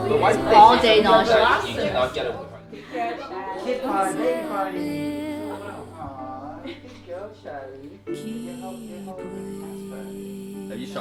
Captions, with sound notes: Yeah. All day nauseous. (all chattering) (soft music)